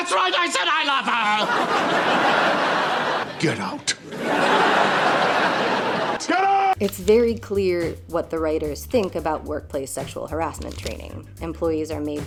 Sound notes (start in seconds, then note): 0.9 canned laughter